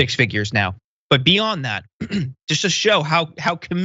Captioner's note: cough